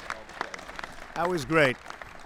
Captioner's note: applause